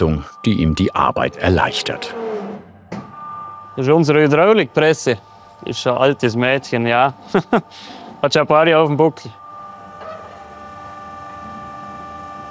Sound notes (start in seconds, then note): 2.2 machine noises; 7.2 laughter